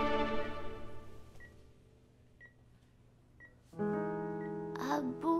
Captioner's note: Beeping sound